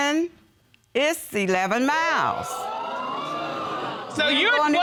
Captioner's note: audience gasps